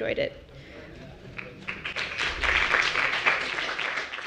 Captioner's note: applause